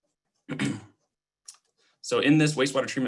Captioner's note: clearing throat